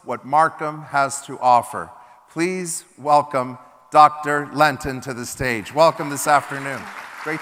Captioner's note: applause